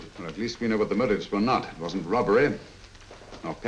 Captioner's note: none